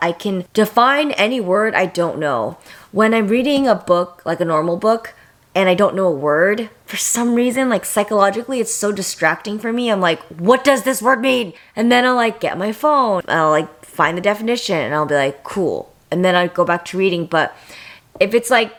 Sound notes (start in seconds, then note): none